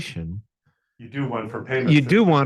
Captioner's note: laughs